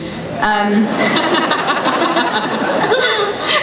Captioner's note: laughing